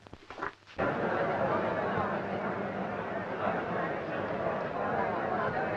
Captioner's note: group chattering